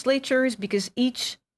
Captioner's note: speaking in French